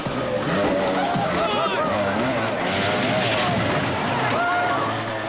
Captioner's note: people screaming